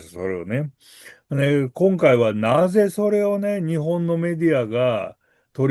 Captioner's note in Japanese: 鼻息